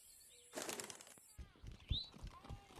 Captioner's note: wings flapping